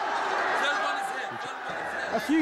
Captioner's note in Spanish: gritos